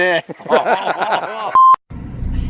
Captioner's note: laughing; camera beeping